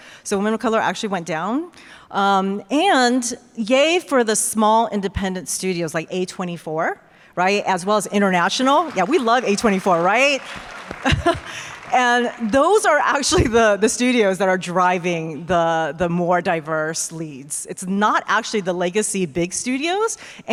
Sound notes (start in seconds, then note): 10.8 laughs; 11.1 audience applause